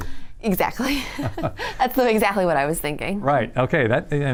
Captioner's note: both laugh